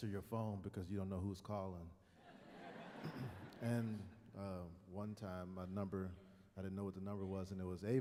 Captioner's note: laughter